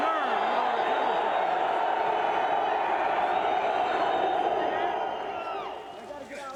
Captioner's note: crowd cheering